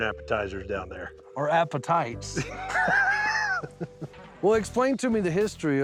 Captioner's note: chuckling